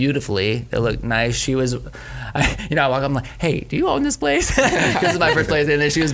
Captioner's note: laughs